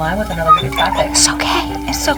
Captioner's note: Chopper whimpering